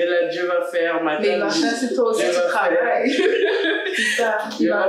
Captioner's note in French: rires